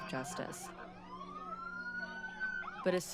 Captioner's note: sirens